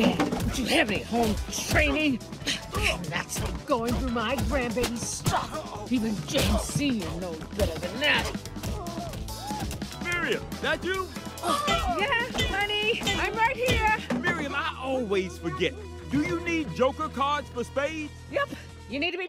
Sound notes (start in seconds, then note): 9.3 thudding continues